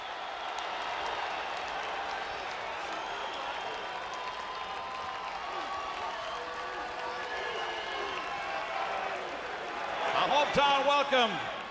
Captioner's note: crowd cheering; crowd chatter